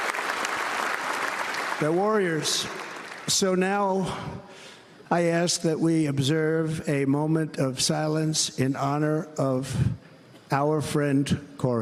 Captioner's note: cheers and applause